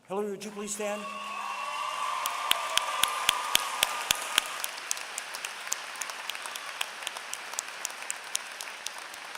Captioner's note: applause